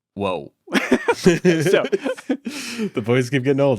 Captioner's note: laughing; laughs